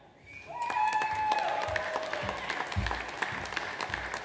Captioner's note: audience applauds